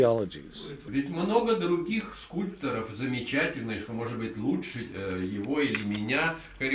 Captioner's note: speaking in the Russian language